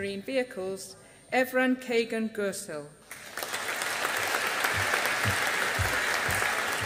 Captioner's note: audience applauding